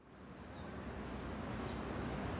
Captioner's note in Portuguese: som de pássaros